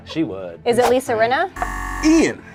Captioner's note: buzzer buzzes